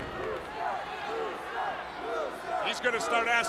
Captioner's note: crowd cheering